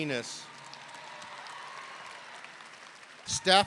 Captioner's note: audience cheering